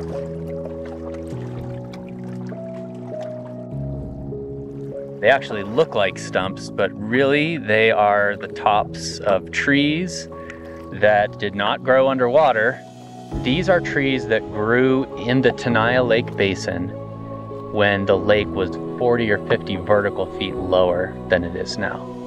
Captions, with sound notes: [waters lapping on tree trunks] They actually look like stumps, but really they are the tops of trees that did not grow under water. These are trees that grew in the Tenaya Lake basin when the lake was 40 or 50 vertical feet lower than it is now.